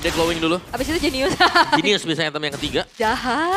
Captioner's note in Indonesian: tertawa